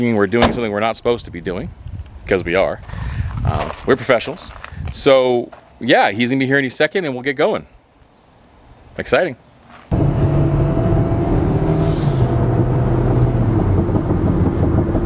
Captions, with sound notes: we're doing something we're not supposed to be doing. 'Cause we are. We're professionals, so, yeah. He's gonna be here any second and we'll get going. Exciting. (car engine revving)